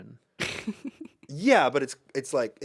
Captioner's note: laughs